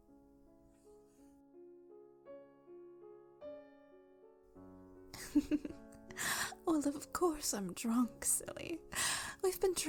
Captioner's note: giggles